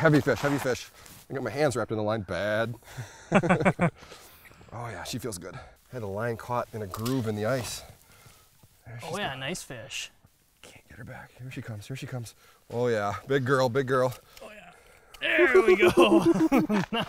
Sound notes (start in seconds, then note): 3.0 laughs